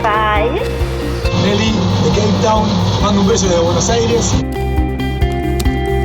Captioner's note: speaking Spanish